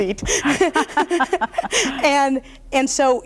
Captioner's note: chuckle